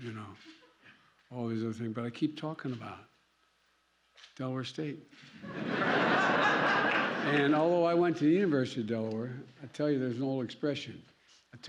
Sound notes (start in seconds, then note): 5.4 laughter